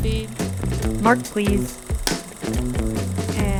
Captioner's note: slate claps